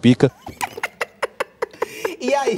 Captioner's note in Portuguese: risos